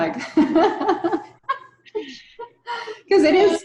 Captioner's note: laughs